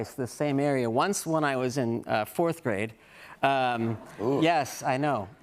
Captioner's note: audience murmurs